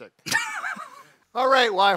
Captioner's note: laughs